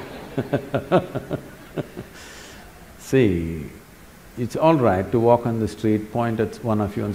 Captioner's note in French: Rires